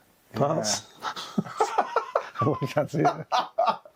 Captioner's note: both laughing